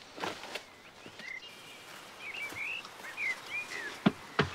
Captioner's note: birds tweeting